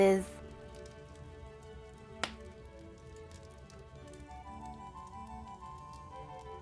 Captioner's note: fire crackling; lively instrumental music